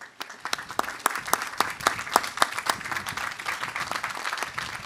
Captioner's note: audience applauding